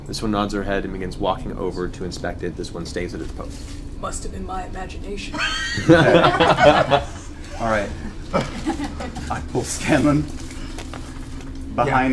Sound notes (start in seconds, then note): 4.5 Metal Gear voice; 5.3 all laugh